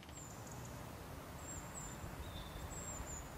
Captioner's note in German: Vogellaute